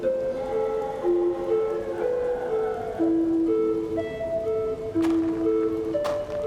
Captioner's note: suspenseful music continues; creature howling; footsteps thudding